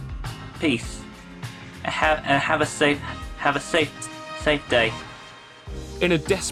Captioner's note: stuttering